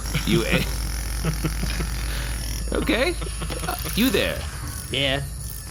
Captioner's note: suppressed laughter